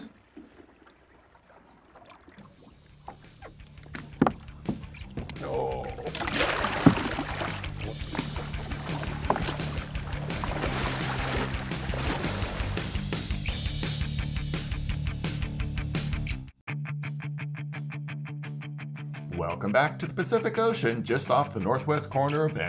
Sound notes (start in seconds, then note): 5.1 groaning; 5.9 fish splashing